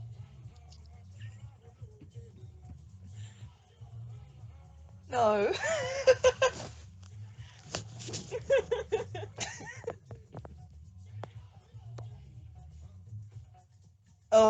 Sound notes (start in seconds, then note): 5.2 laughs